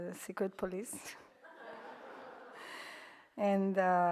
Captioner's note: audience laughs